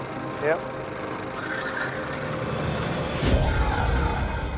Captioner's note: pump sucking water